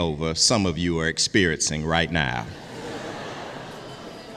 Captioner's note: audience laughs